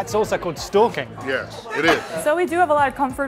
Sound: chuckling

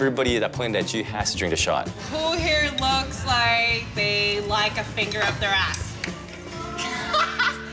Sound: laughter

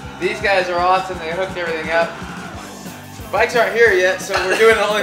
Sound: group laughter

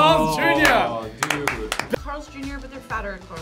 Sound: clapping

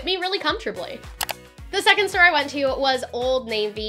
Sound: click

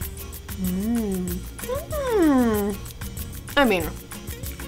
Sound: sighs

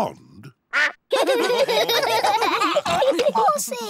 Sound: all laugh

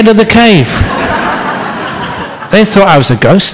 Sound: laughter

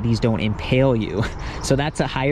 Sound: man chuckles

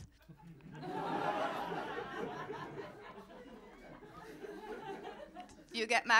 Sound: laughter

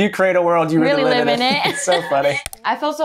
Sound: chuckles

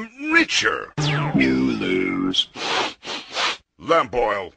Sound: kid sniffles

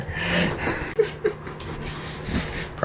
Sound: laughs

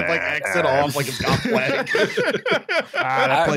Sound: laughter

